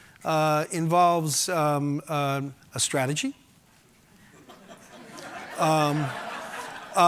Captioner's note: audience laughing